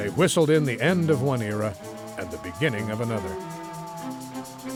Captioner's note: train whistle hooting